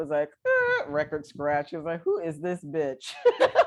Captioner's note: laughter